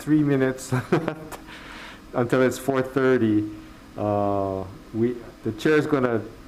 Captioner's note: laughs